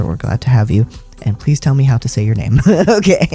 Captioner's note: laugh